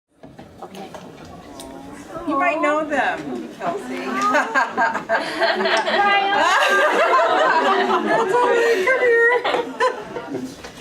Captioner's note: laughter, applause; laughter